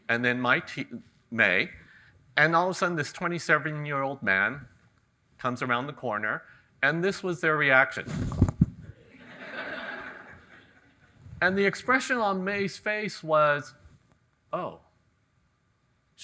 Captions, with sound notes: And then Mei. And all of a sudden, this 27-year-old man comes around the corner and this was their reaction. (audience laughing) And the expression on Mei's face was, "Oh..."